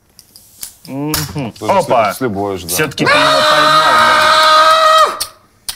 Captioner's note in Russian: крик